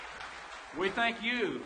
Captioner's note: audience applauds